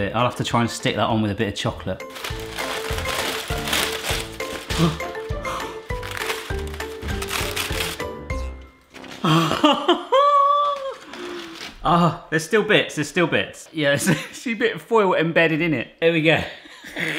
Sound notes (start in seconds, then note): 2.0 foil rustling; 4.6 gasping; 9.2 laughing